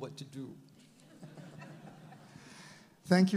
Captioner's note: all laugh